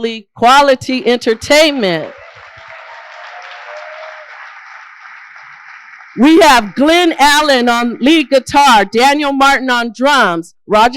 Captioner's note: applause